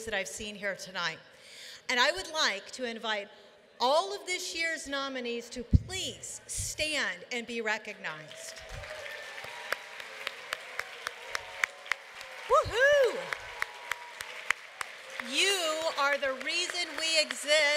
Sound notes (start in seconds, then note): 8.2 applause